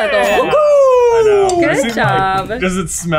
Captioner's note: bell dings